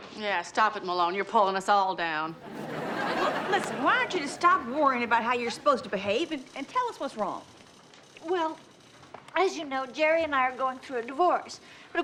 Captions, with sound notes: - Yeah, stop it, Malone, you're pulling us all down. (audience laughs) - Listen, why don't you just stop worrying about how you're supposed to behave, and tell us what's wrong. - Well. As you know, Jerry and I are going through a divorce.